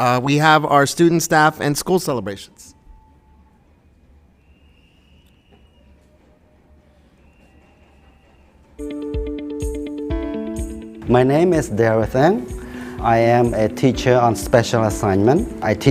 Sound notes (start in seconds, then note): 4.1 distant whistle blows; 4.1 people yelling; 8.8 bright music